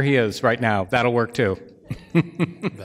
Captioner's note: laughs